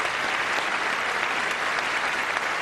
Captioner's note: cheers